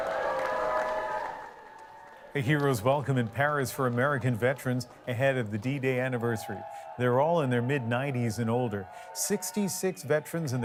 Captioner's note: applause